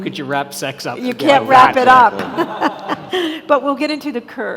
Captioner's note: all laughing